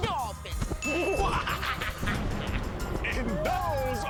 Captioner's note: laughs ominously